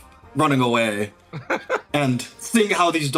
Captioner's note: laugh